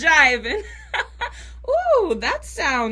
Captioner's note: laughter